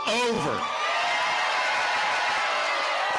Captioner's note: cheering and applause